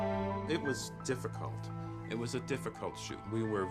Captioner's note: none